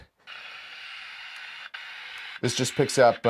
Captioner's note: radio static crackling